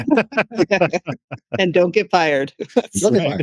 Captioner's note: laughing